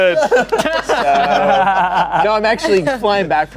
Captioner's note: everyone laughing